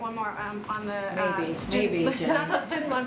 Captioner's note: laughter